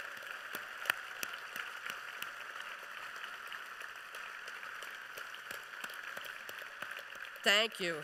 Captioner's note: applause